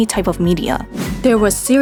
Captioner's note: transition sound + whoosh sound